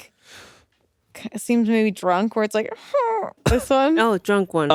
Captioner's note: groans